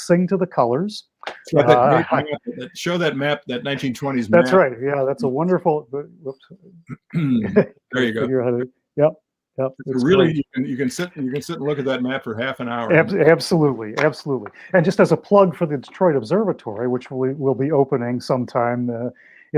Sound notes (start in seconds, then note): 9.9 laugh